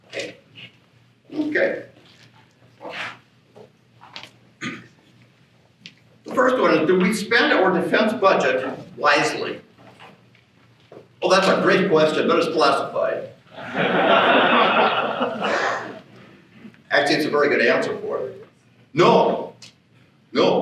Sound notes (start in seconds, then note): 13.5 laughter